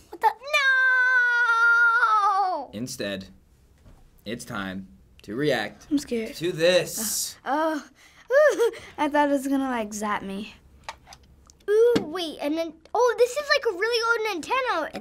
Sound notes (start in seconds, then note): 8.3 laughs